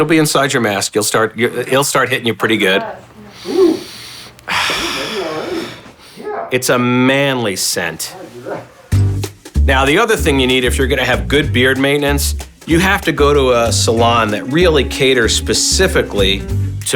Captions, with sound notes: It'll be inside your mask. You'll start hitting, you're pretty good. (speaker inhales & exhales) - (speaks faintly) Yeah. - It's a manly scent. (man speaks faintly) Now the other thing you need if you're gonna have good beard maintenance, you have to go to a salon that really cater specifically